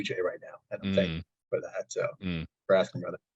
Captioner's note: audio distortion